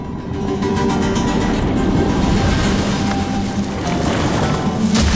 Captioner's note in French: rugissement de cours d'eau